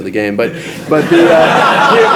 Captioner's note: audience laughs